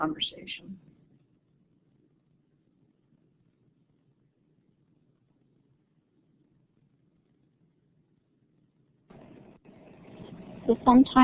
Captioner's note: silence